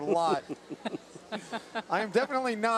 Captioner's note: laugh